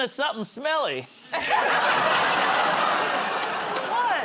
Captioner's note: laughter